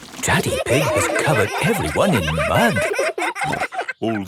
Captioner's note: all laughing